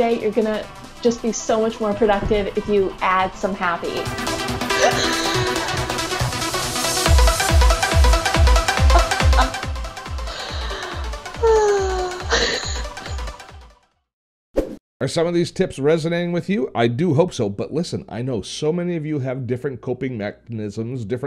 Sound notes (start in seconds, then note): 3.1 electronic dance music; 10.1 sighing